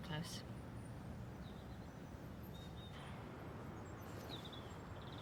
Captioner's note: birds chirping